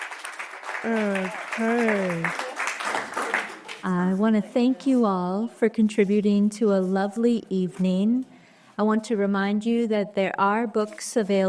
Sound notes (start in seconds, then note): 0.0 short applause